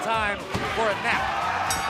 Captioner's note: bell ringing